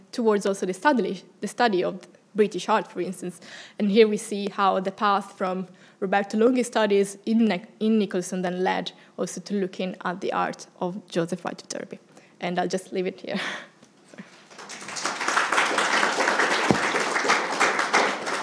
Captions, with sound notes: towards also the study of British art, for instance. And here, we see how the path from Roberto Longhi's studies in Nicolson then led also to looking at the art of Joseph Wright of Derby. And I'll just leave it here. (attendees applauding)